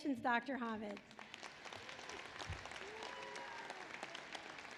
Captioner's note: applause